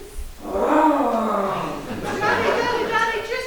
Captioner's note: growls!